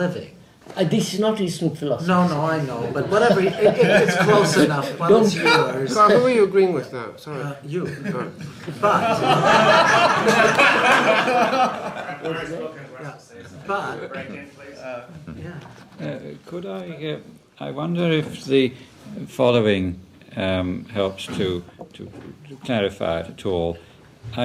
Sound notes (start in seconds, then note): 3.0 laughs; 11.3 laughter